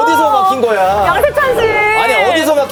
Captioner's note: frustrated